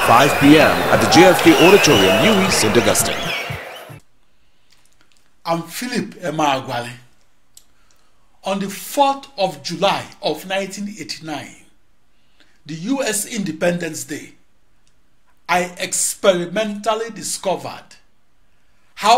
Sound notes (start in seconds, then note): 4.5 wild applause and cheering for 22 seconds